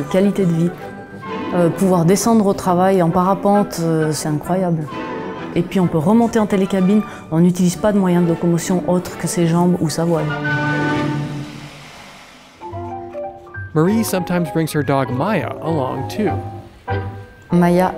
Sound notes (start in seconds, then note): 10.4 machine whooshing; 12.6 cheerful instrumental music; 17.7 speaking in a foreign language